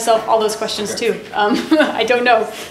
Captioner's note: laughing